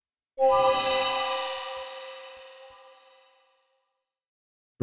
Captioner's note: chime